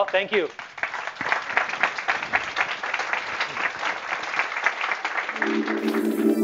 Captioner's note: applause